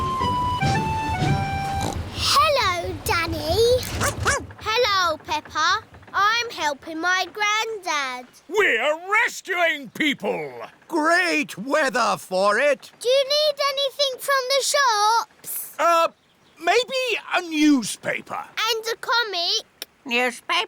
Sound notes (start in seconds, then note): 1.6 snorts; 3.9 barks